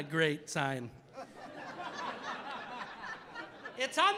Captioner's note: audience laughing